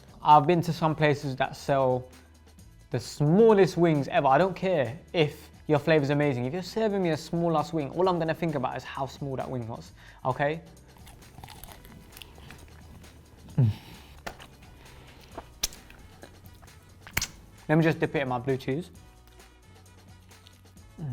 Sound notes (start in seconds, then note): 11.2 upbeat music; 15.2 sucking fingers; 19.4 upbeat music